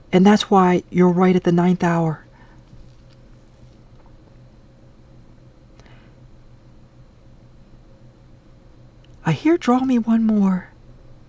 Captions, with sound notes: And that's why you're right at the ninth hour. [silence] I hear "Draw me one more."